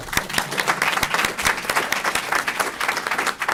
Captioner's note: applause